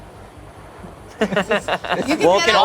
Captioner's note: laughs